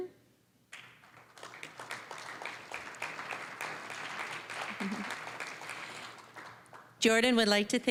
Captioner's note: applause